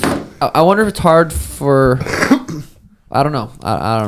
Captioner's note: coughing